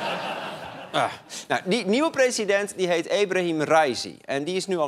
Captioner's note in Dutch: gelach